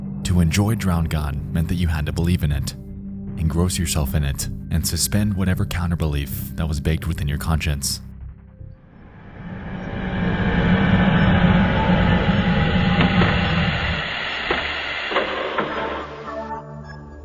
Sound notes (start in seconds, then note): 9.0 machinery whirring; 9.7 gentle ominous music